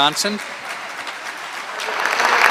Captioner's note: applause